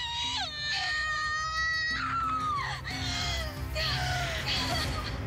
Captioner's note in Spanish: alarido